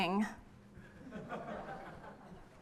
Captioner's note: laughter